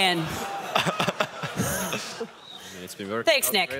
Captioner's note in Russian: смех